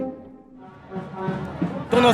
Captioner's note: Spanish